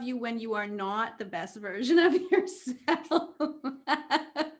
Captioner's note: laughs